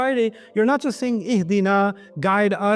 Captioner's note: Arabic